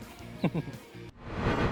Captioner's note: laughs